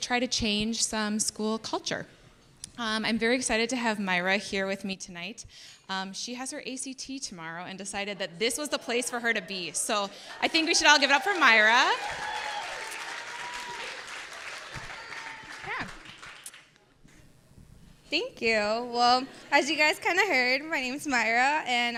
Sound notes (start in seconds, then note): 12.1 audience applauds